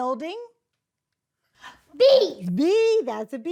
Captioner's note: Mrs. Colon gasps